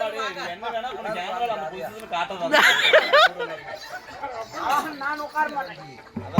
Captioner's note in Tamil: சிரிப்பு